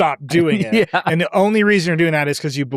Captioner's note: laughs